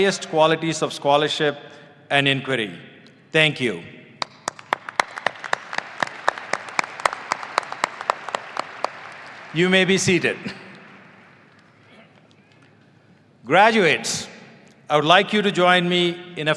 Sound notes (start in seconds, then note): 4.2 audience applauding